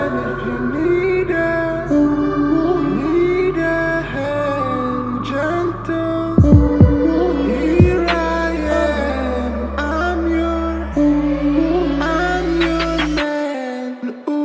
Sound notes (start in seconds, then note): 6.4 uuuuh; 10.7 uuuh